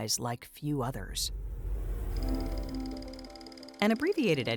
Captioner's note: transition whooshes; machinery clacking